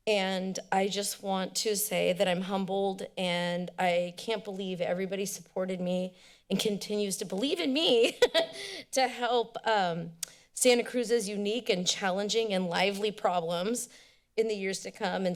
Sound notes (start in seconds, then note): 8.0 laughs; 9.4 tongue clicks